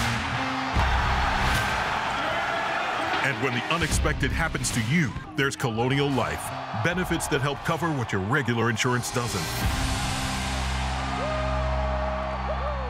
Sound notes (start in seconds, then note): 0.5 crowd cheers